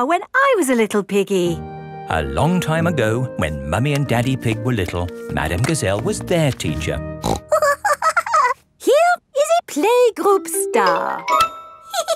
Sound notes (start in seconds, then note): 7.2 snorts and giggles